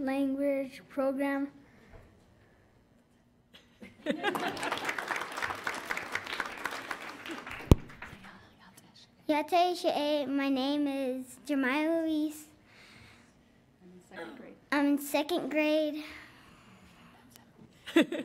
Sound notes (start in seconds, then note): 3.9 audience laughs; 4.2 audience applauds; 8.2 speaking in foreign language